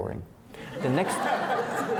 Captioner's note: laughing